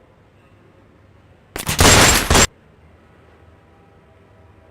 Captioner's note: shots